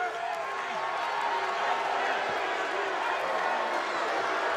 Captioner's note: crowd boos